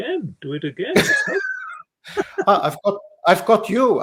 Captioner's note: laughing